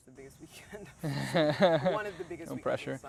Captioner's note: laughs